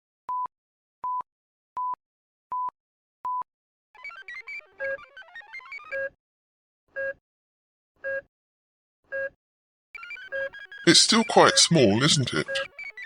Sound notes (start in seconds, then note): 3.9 slow beeping